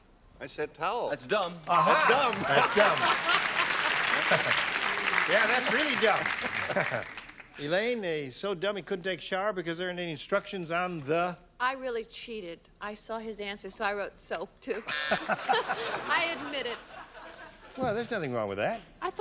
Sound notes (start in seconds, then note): 3.7 applause; 14.8 buzzer; 14.8 laughter